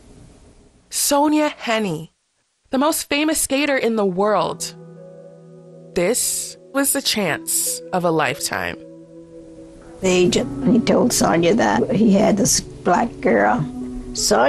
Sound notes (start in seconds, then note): 8.0 soundbite of archived recording